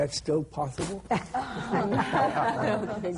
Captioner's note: laughter